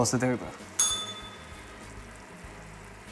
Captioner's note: bell rings